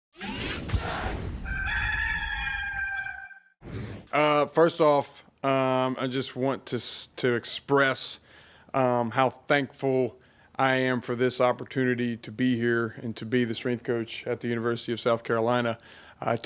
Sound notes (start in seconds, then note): 0.1 robotic whir; 1.4 rooster crows